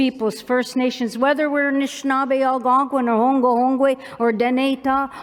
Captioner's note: non-english